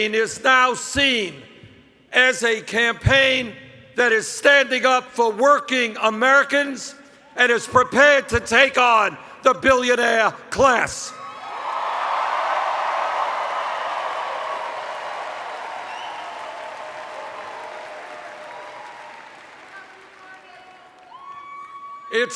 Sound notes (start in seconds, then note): 15.8 cheers